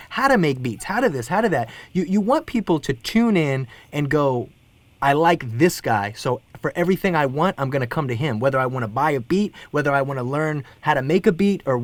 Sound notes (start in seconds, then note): none